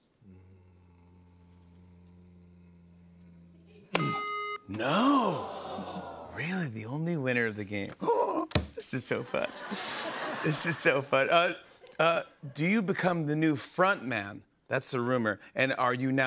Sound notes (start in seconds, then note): 8.0 gasps; 9.1 laughter